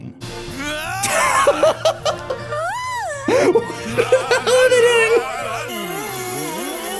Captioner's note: laughing